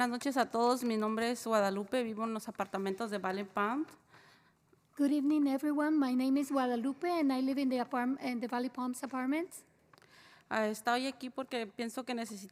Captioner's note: spanish